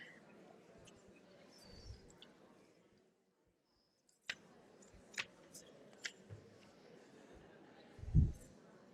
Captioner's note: pause